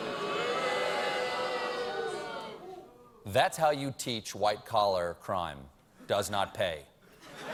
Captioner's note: booing